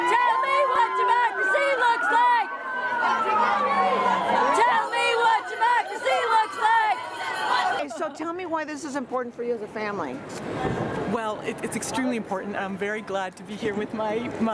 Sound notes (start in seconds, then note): 0.8 chants; 2.5 unison chant; 3.6 chants; 7.0 unison chant